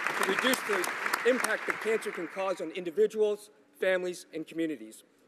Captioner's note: applause